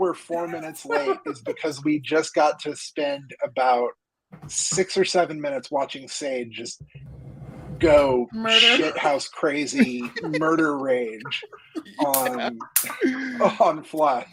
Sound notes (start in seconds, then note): 0.3 laughs; 4.3 knocks; 8.4 laugh; 8.4 laughing; 12.1 clapping